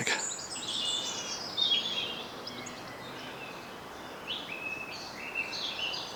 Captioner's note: birdsong